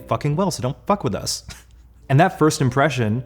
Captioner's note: laughs